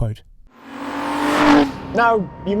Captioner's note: engine revving